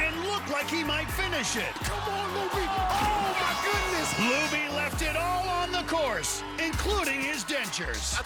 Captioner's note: cheers and applause